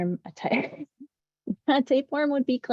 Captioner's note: chuckles